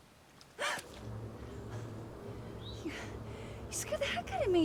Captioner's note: Abigail gasps